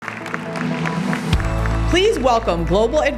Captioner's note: audience applauding